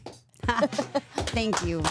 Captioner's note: chuckles